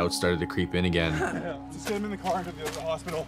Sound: cries

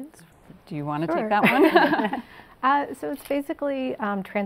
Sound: laughs

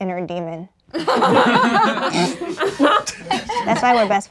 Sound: laughing

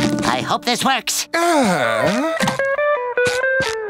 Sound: sighing

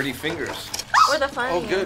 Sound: squeals

